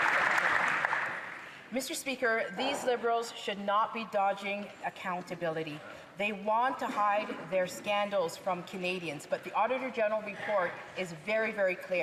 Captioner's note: some Applause